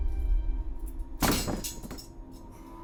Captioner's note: rattling